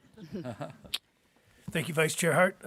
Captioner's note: board members chuckling